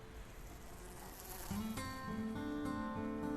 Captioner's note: fly buzzing